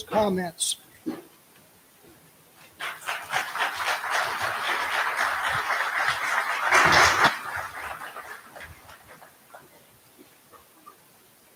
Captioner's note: applause